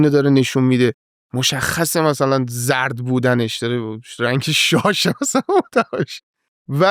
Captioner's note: laughs